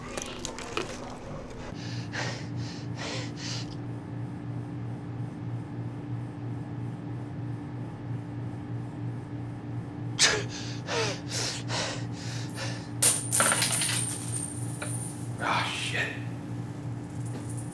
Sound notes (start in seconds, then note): 0.0 eating loudly; 2.9 panting; 13.0 change falling; 17.0 change clicking